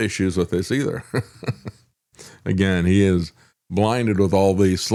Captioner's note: laughs